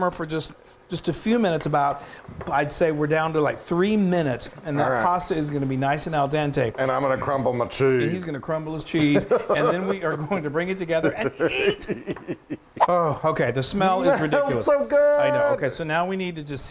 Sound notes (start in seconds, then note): 11.0 giggling